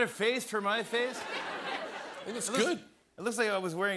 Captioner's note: laughter